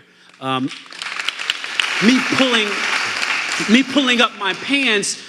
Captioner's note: audience applauding